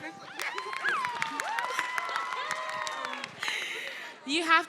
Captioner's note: audience members cheering; audience members applauding